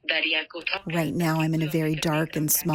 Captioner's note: through translator